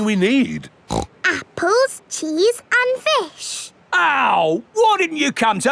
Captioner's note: snorts